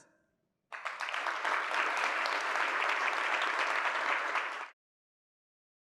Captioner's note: audience applauding